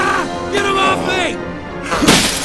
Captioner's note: screaming; screams; grunts